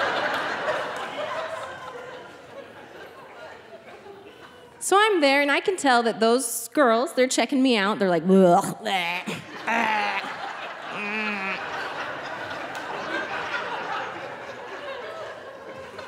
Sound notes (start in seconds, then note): 0.0 audience laughing; 8.8 barfing; 12.3 audience laughing